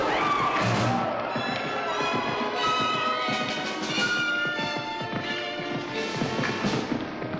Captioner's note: commotion & screaming; dramatic music; hooves echo; dramatic music; somber music